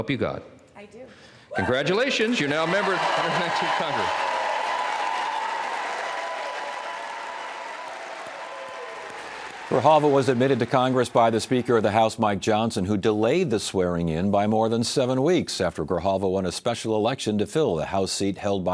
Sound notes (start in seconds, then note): 12.4 cheers and applause